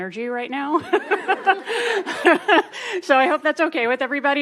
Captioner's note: all laughing